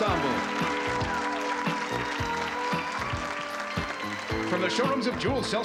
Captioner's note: applause